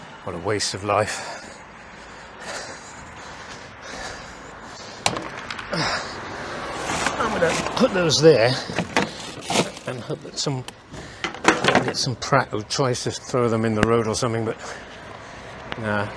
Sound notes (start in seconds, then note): 6.1 traffic sounds